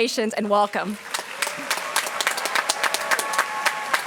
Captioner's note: applause